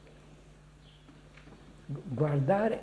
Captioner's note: Italian